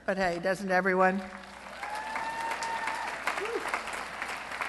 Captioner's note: cheering